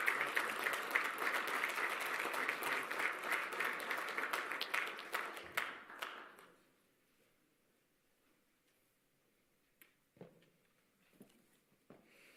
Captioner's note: applause